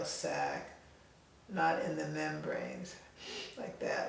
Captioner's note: inhales loudly